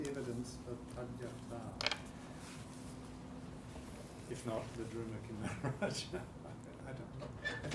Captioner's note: chuckling